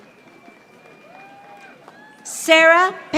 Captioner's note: audience applauding